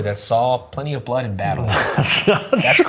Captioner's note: laughing